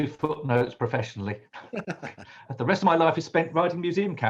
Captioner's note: laughs